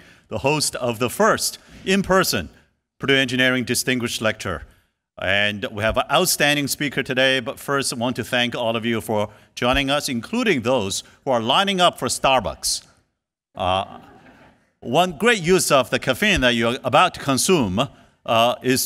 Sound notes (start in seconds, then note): 13.6 laughs